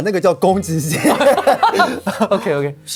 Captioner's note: laughs